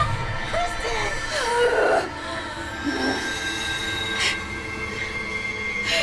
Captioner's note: dramatic music; grunting